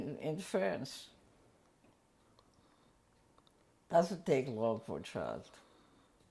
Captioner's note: pauses for 3 seconds